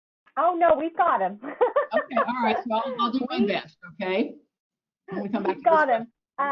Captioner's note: laughs